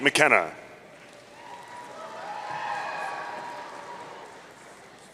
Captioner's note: audience cheering